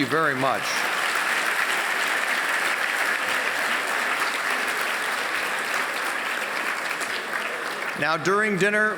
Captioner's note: applause